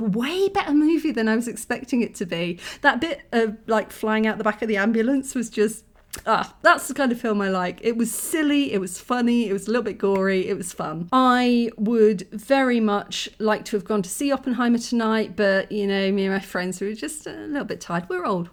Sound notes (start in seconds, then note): 6.0 kiss